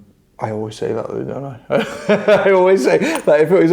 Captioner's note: laughs